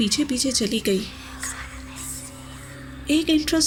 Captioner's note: whisperings